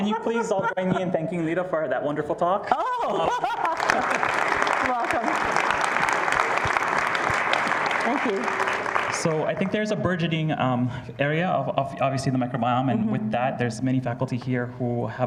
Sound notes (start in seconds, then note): 2.7 laughs; 6.8 applause